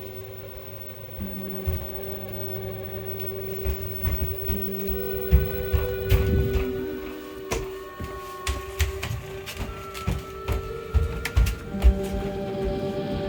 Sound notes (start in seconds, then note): 0.3 suspenseful music continues; 3.7 footsteps thumping; 7.6 suspenseful music continues; 10.1 footsteps thumping